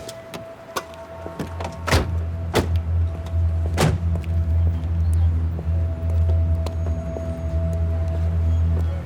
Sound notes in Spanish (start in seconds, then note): 1.6 Portazos